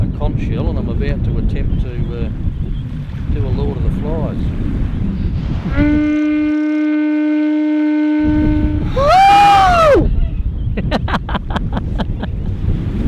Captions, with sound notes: - A conch shell, and I'm about to attempt to pull a Lord of the Flies. (horn rings) (horn rings) (laughs)